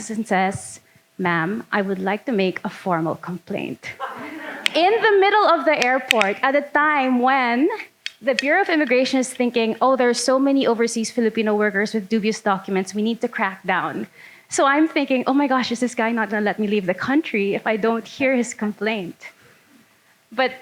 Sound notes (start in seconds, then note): 4.0 audience laughing